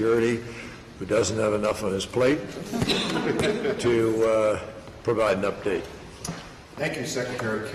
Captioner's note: laughter